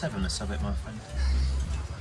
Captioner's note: Fillus laughs